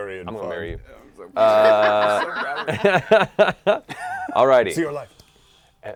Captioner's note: laughter